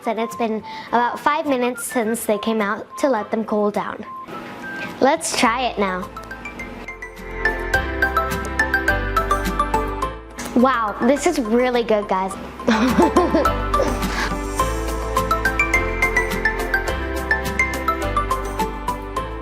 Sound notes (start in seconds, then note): 12.7 laughs; 14.8 upbeat music